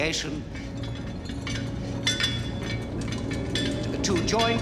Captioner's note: rumbling